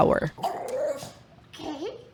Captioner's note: happy growl